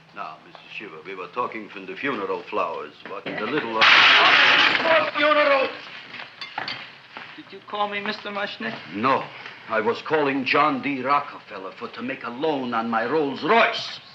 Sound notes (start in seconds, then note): 3.8 pot clanging